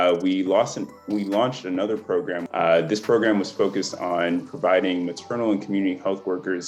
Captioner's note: none